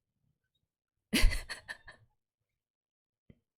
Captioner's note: laughs